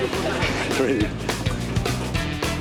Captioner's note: chuckles; upbeat funk music